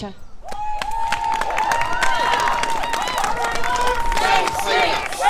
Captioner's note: clapping and cheering